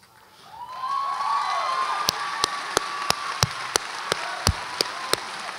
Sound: audience applauds and cheers

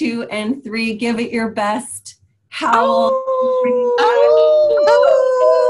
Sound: howling

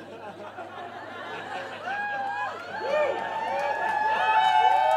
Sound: audience cheering and clapping

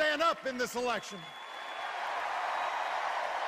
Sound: cheers and applause

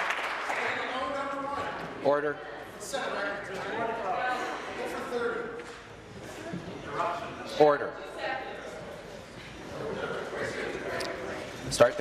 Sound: some Applause

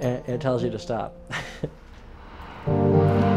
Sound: chuckles; dramatic music plays

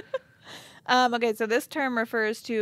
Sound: chuckles

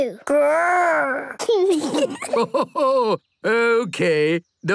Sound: kids giggling; Grandpa laughing

